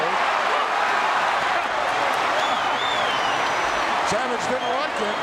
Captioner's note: audience cheering